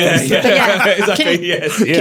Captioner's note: all laughing